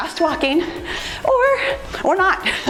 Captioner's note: timer beeps; laughs